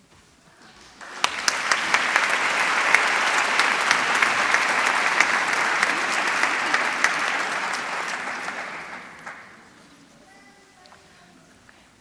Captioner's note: applause